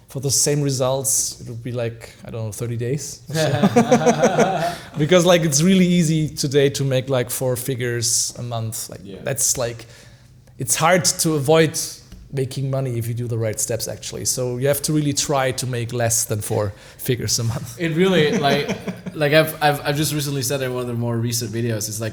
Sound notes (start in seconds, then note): 3.3 laughing